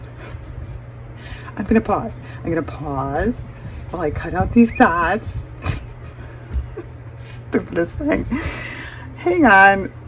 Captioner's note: laughs; laughs